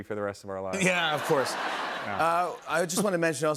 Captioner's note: laughter